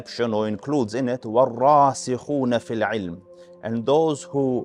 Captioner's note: Arabic